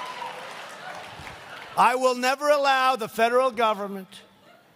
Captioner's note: laughter